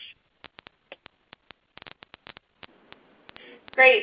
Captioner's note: silence